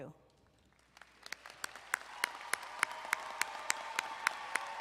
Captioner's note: crowd applauding